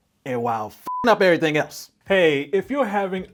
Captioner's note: beep